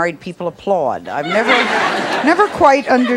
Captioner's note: audience laughs